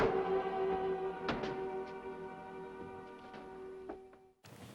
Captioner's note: boards thudding